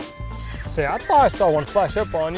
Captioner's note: reel whirring